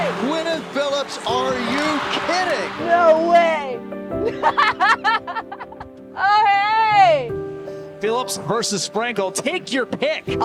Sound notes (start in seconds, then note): 4.2 laughing